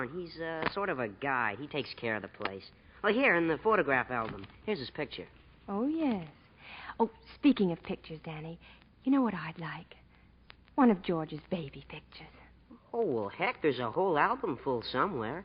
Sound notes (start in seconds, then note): none